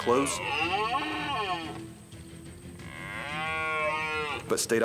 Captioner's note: stag bellowing